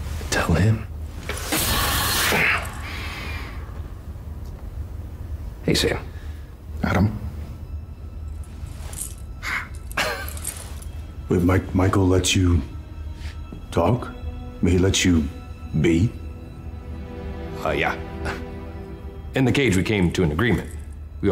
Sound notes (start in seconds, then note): 2.7 grunts; 9.9 chuckles